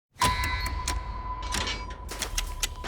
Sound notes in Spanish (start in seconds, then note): 0.2 puerta metálica; 1.4 tictac